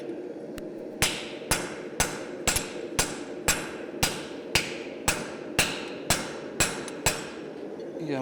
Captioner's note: sharp metallic hammering